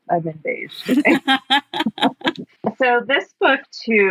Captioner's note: laughs